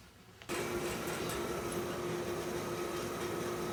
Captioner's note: gym equipment whirring in background